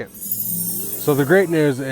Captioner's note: magical chimes ringing